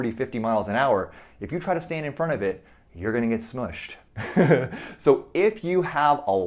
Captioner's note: chuckles